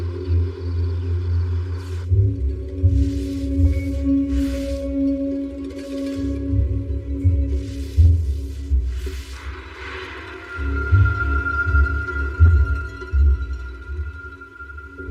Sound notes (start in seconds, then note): 1.7 tenense music; 5.3 mopop sweeps